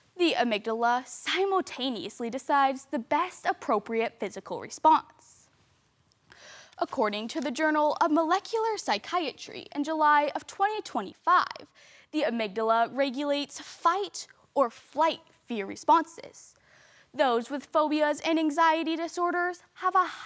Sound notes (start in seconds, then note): 5.6 rustling; 6.3 sharp inhale